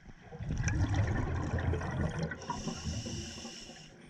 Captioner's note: diver breathing